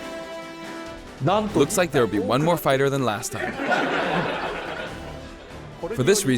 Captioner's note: laughter